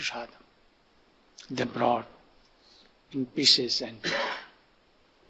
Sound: cough

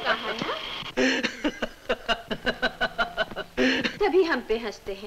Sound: laughs

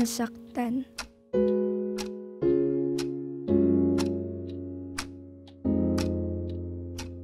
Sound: clock Ticking

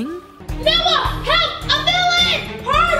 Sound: girls shouting

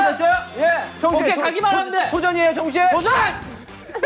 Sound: like a robot

